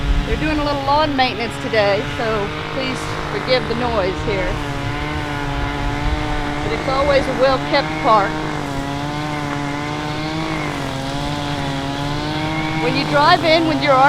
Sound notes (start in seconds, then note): 0.0 weed eater noise in the background